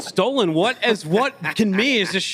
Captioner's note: laughs